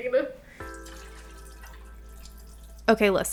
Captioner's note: coffee splashing